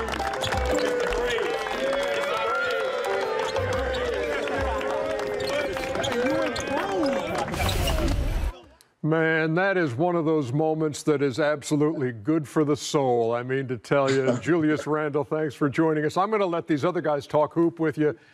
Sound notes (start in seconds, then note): 3.9 applause